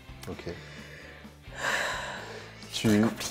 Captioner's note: deep breath